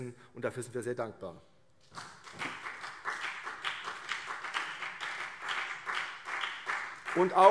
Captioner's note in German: Vereinzelter Beifall CDU und BÜNDNIS 90/DIE GRÜNEN